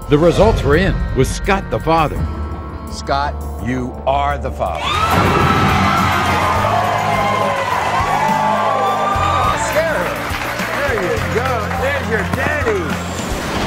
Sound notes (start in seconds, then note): 4.8 audience cheering; 13.4 upbeat music